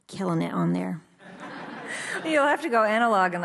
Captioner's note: audience laughs